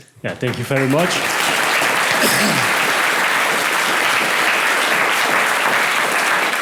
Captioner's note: applause